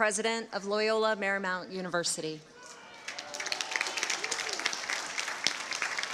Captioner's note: applause